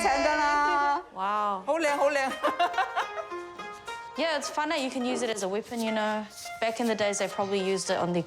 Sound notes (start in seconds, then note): 0.0 speaks chinese language